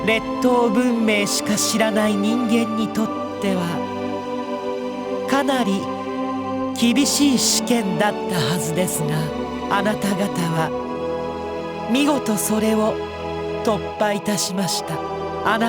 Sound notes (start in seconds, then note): none